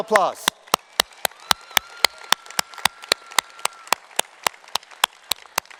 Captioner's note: applause